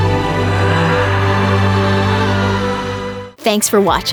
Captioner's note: scream